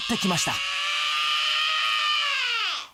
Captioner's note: screaming